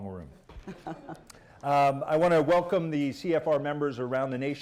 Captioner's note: laughter